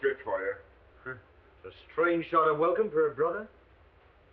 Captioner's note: scoffs